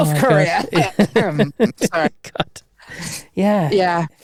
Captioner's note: laughing